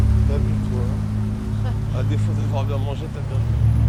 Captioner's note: speaking french